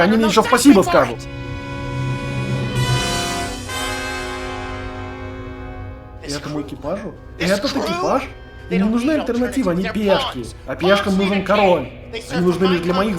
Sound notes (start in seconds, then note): 5.8 kirk's speech echoes shipwide